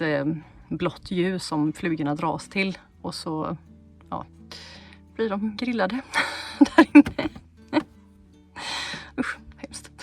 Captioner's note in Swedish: skratt